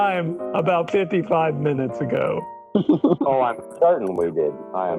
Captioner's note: laughs